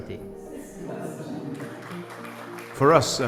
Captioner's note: applause